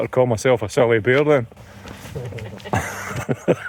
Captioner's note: laughter